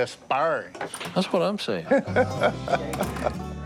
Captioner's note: laughs